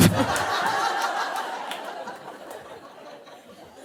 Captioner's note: audience laughing